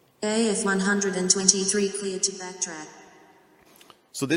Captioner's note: synthesized Voice